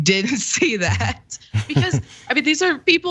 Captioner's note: laugh